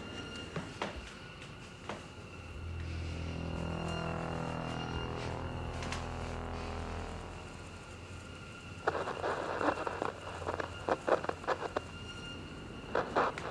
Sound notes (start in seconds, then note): 8.8 intercom static